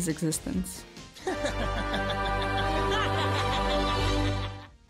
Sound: laughter

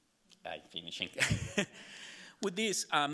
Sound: laughing

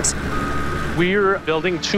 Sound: truck beeping

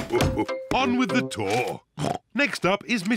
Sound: oinks

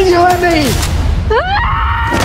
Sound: screams

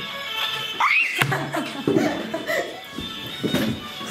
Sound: scream

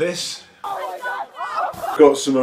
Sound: laughs

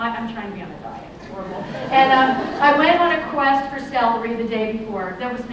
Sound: laughter

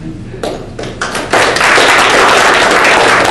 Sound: clapping

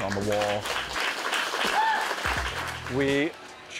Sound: applause, cheering

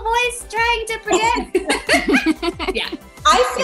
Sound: all giggle

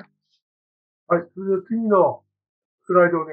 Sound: speaking japanese

